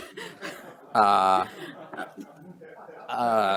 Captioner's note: chuckling